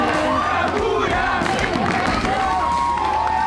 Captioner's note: crowd chanting